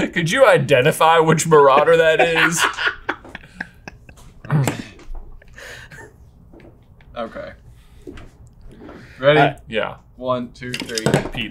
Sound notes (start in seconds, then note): 1.5 laughs